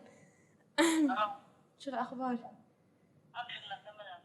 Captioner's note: non-english speech